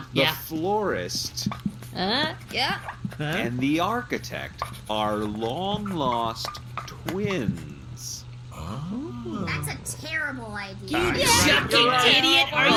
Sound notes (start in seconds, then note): 8.5 a couple of writers "huh" thoughtfully